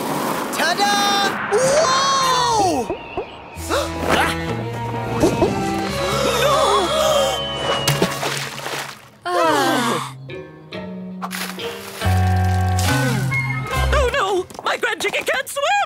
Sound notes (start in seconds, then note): 3.3 gasping; 7.6 splashing; 9.2 sighing